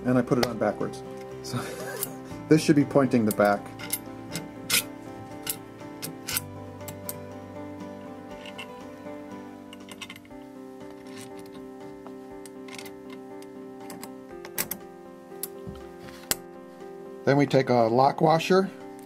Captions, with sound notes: And I put it on backwards... This should be pointing the back. (metal scraping) (light piano music) Then we take a lock washer